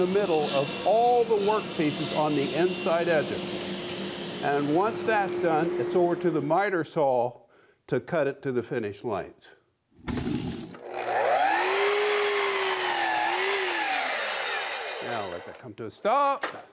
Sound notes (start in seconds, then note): 9.7 wood churns; 10.8 machine whirring